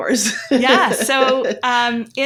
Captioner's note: chuckles